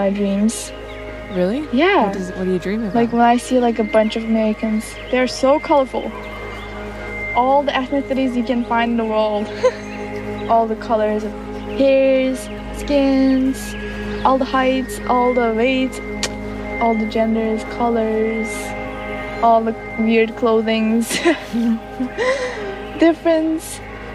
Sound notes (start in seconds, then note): 9.4 laughs; 21.0 both laugh